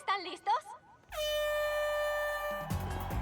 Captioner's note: horn blast